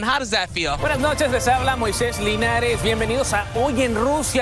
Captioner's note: speaks in Spanish